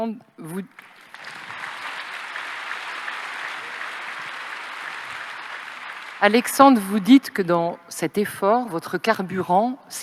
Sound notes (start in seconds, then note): 0.7 applause